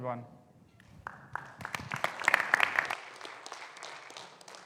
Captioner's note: audience clapping